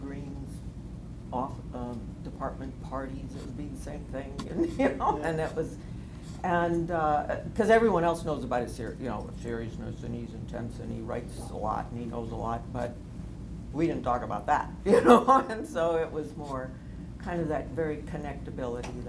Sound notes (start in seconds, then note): 15.0 laughs